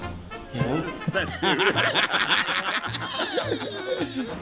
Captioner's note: laughter